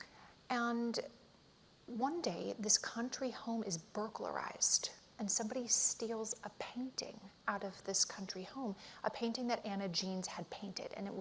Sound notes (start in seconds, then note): none